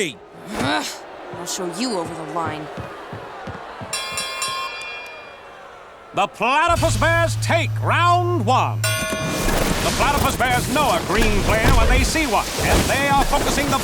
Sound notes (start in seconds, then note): 0.2 groaning; 3.9 dinging; 8.8 dinging